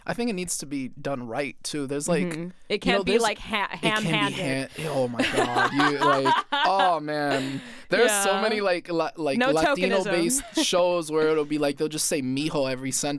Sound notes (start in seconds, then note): 6.9 laughs